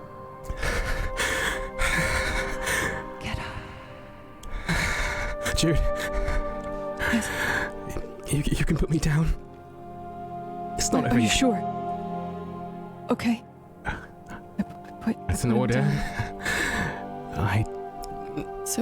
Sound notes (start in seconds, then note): 2.5 whispering